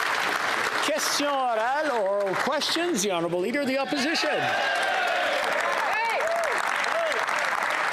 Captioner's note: applause